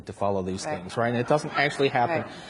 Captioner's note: audience laughs